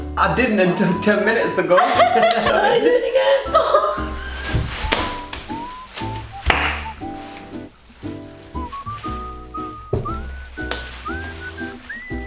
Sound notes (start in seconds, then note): 1.7 both laugh; 2.6 with a raspy voice